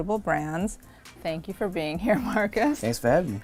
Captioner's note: laughs